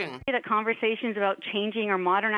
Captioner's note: speaking French